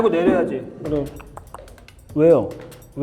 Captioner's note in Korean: 똑똑똑